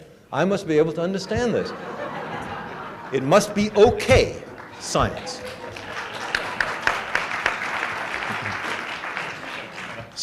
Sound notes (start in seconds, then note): 1.3 laughter; 6.0 applause